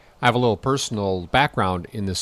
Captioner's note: voiceover